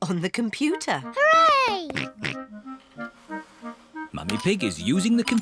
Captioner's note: snorts